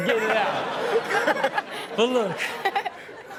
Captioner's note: all laughing